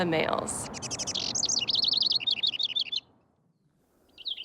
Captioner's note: bird singing